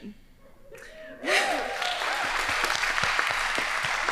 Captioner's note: applauding